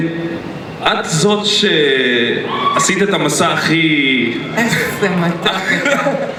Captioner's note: man speaks in Hebrew